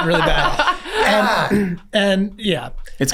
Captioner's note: laughs